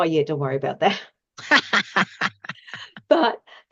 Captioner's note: laughs